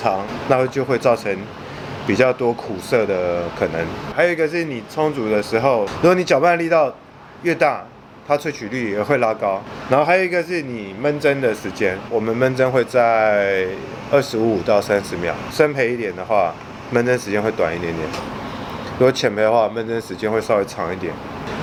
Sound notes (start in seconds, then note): 6.2 strong water flow